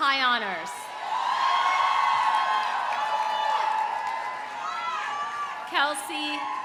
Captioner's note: audience cheering; audience applauding